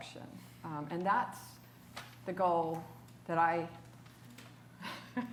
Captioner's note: laughs